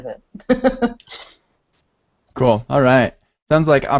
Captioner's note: laughter